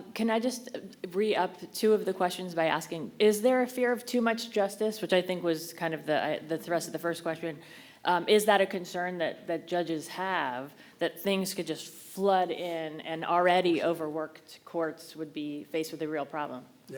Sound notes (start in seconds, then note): none